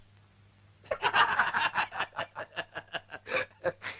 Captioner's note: laughing